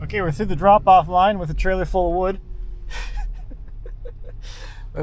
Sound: laughs

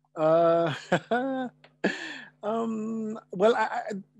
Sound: chuckles

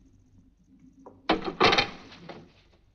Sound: mirror clatters

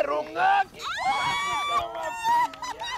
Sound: screams

